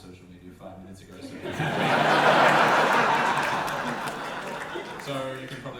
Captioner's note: audience laughter